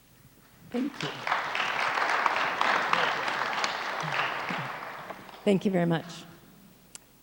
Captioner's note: audience applauds